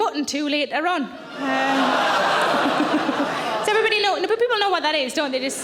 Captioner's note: audience laughing